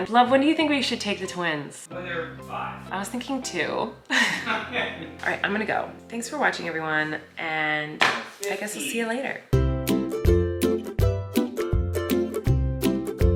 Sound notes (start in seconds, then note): 4.1 both laughing; 9.5 upbeat music